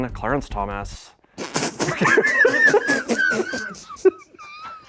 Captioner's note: sighs; laughs